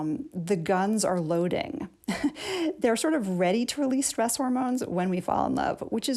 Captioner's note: laughter